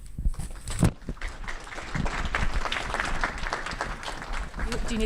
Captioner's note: audience clapping